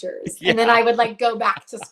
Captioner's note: laughs